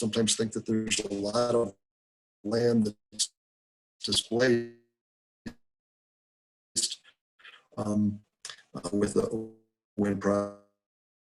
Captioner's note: break in audio